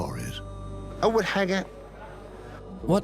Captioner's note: Arabic dubbed in English